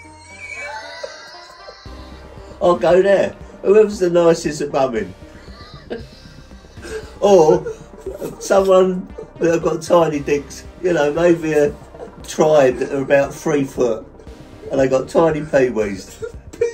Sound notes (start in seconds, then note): 1.4 laughing; 5.2 both laughing